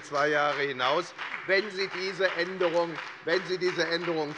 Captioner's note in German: Beifall bei der FDP und bei Abgeordneten der SPD